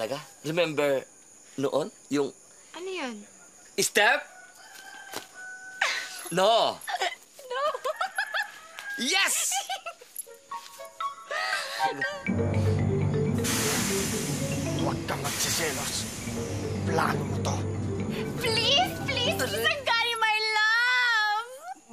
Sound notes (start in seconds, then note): 6.8 laughs; 12.1 thrilling music playing; 13.2 steam blowing